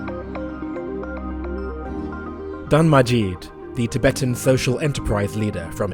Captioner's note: voiceover